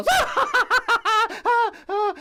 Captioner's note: laughs